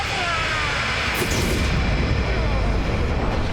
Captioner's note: booooooom!